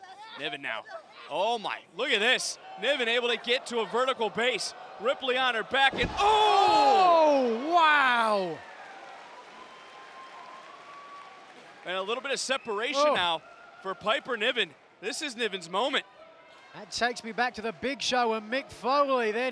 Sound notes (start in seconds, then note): 8.4 applause